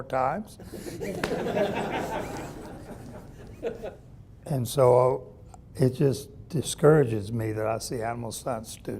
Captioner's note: audience laughing